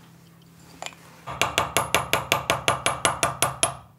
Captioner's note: quiet, fast hammering